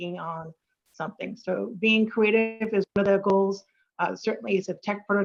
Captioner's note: audio distorts